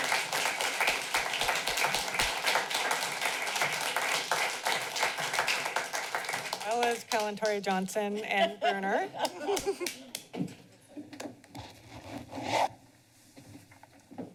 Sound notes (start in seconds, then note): 0.0 clapping; 8.1 laughter